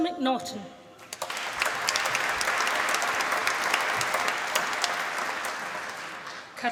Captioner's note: applause